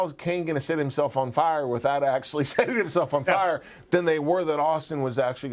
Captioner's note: laugh